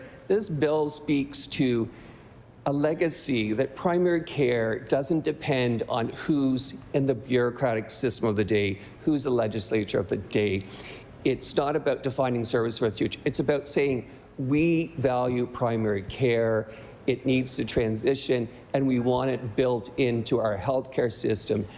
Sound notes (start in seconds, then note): none